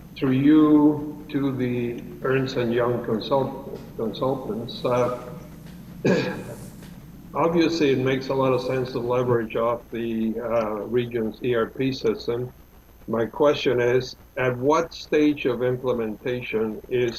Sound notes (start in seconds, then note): 6.0 clears throat